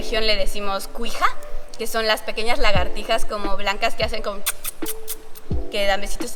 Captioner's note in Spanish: sonido de besito